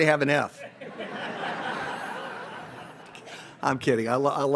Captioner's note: audience laughs